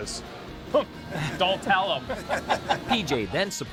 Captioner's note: laughter